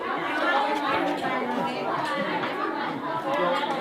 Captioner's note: people chatter